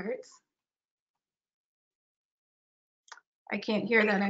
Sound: silence

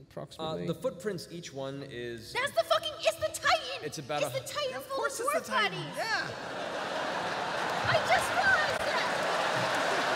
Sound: shouting; laughter

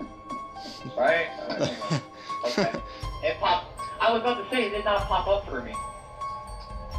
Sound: I giggle

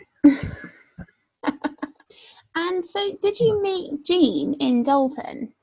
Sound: laughs

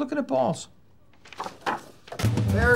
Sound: door opens

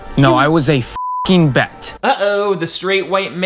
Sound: beep

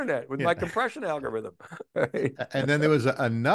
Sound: chuckling

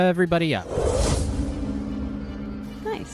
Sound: magical sound effect

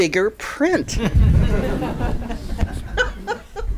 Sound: chuckling

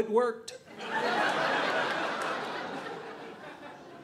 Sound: audience laughing

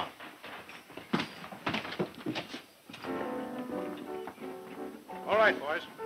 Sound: footsteps walking; upbeat music

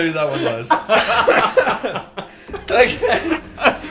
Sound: group laughing

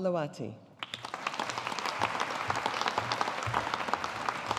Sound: audience applauding

